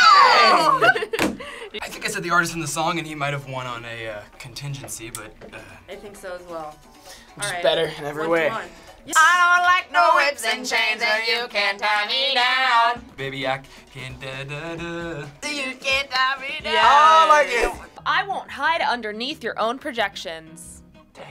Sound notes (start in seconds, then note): 13.5 vocalizes